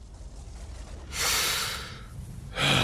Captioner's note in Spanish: Inhala; Exhala